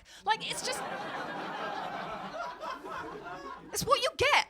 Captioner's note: audience laughing